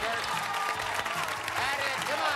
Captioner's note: cheers and applause